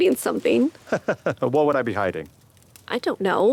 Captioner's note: laughs